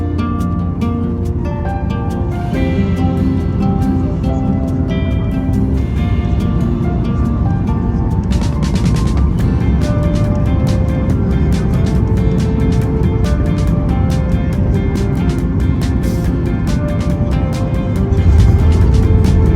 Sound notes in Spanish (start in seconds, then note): 4.0 Sonido de aterrizaje del avión